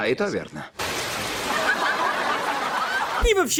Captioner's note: laughter